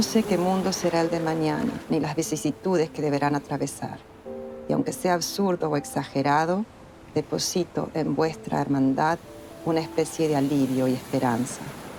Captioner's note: speaking in Spanish